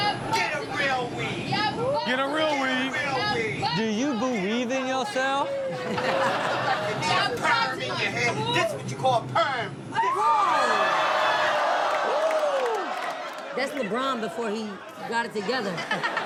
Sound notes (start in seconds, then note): 5.5 audience laughs; 10.2 all laughing